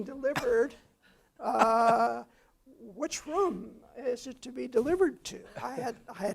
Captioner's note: laugh